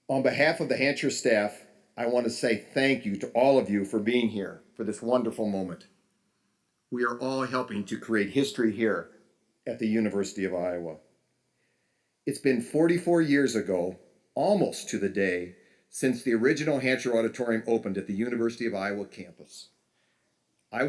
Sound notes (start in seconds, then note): none